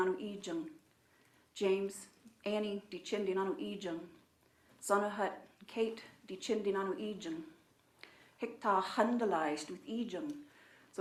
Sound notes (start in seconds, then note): 1.6 speaking in own language